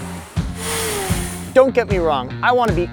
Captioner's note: engines revving